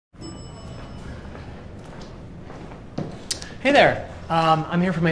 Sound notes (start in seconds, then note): 0.2 elevator dings